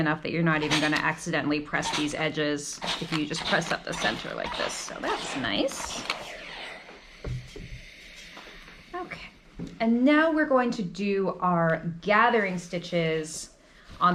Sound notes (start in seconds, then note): 6.5 steam hissing